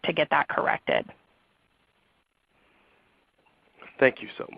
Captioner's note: silence